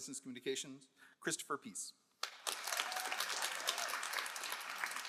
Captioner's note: all applauding